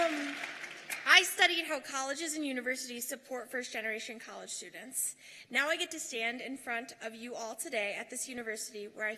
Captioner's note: cheers and applause